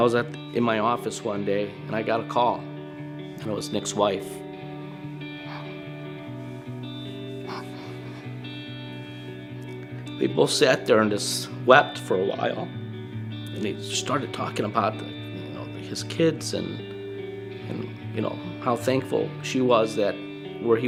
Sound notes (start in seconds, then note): 5.3 sniffling